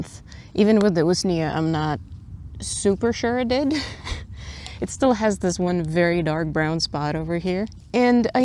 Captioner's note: laughs